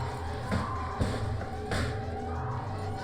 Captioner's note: metal claps